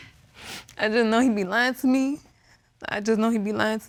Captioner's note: sniffs